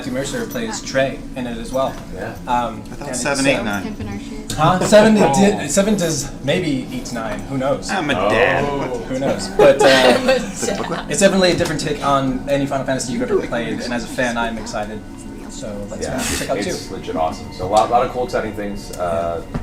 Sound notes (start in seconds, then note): 8.0 laughs